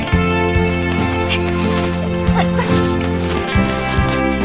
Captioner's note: giggling